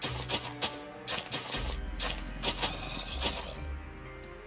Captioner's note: zombies groan